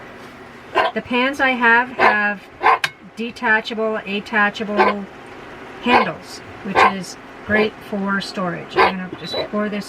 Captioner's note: bark